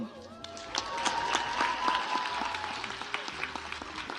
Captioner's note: audience applauds